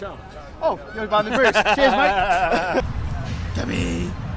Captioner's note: laughing